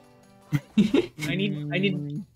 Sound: laughs

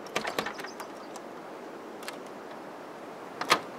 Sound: door jiggles

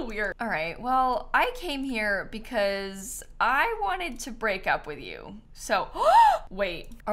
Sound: gasps

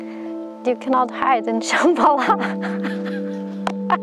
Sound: laughs

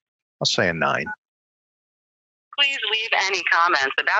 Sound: phone beeps

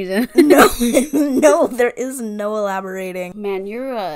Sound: laughing

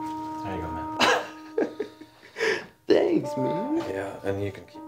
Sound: laughing

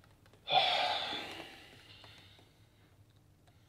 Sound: sighs

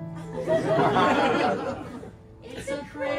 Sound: laughter

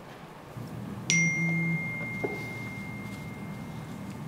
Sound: cellphone beeps

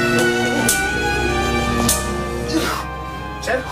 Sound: gasping

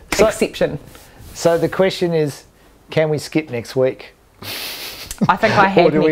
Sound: chuckling

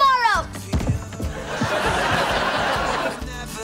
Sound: laughter

